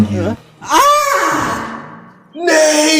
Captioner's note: Nate yells